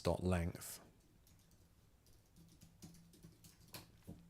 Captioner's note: silence